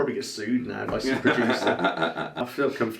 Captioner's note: laughing